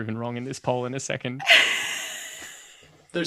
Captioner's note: laughs